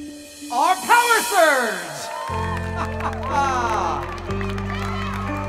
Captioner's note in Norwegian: jubel og applaus; annonsør humrer